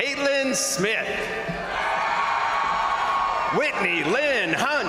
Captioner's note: crowd cheering; crowd applauding